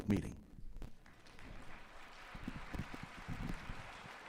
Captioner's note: applause